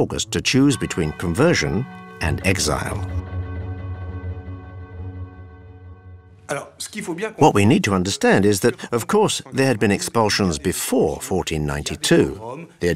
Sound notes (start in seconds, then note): 7.4 dramatic music; 7.4 speaking in foreign language